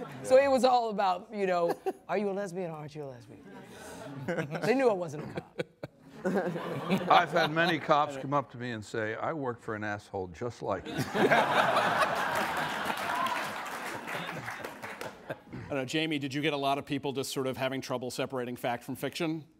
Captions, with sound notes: So, it was all about, "Are you a lesbian, or aren't you a lesbian?" They knew I wasn't a cop. I've had many cops come up to me and say, "I work for an asshole just like you." (ALL LAUGHING) (AUDIENCE APPLAUDS) Jamie, did you get a lot of people just having trouble separating fact from fiction?